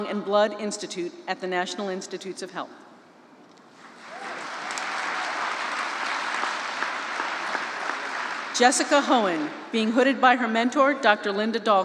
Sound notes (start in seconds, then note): 3.9 applause